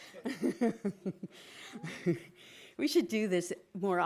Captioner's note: laughing